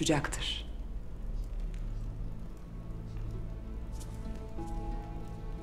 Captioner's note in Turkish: Ateş çıtırtı sesi